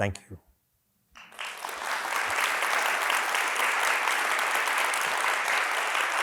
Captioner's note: applause